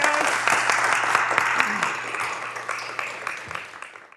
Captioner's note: applause